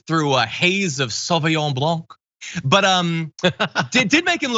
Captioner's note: laugh